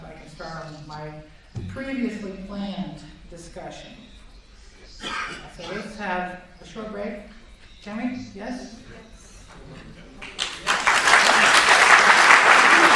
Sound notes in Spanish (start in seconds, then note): 10.2 Si. Aplausos